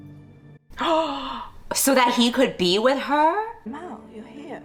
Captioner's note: gasps